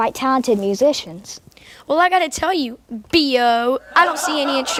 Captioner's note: audience laughter